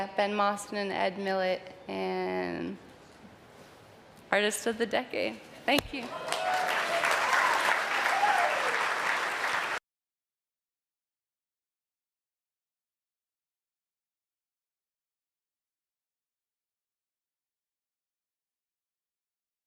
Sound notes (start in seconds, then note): 5.9 audience clapping and cheering